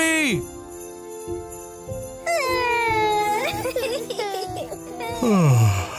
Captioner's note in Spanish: Bluey y Bingo lloran